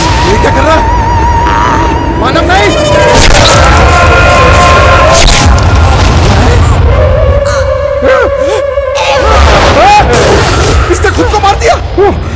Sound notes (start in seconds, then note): 3.7 Manav screams